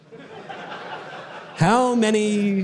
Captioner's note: audience laughter